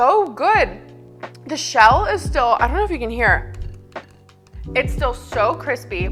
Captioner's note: taps shell